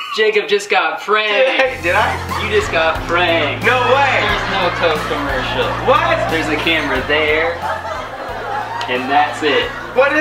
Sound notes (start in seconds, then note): 2.0 laughing; 2.3 audience laughing; 4.0 audience laughing; 6.1 audience laughing